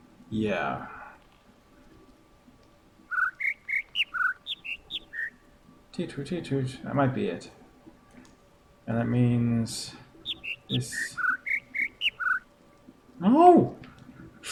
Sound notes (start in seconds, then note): 1.8 overlapping birds chirping, ˥ ˧ ˥ ˩; 5.9 imitates notes; 8.6 overlapping birds chirping, ˥ ˧ ˥ ˩